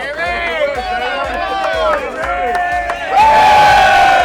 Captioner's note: cheering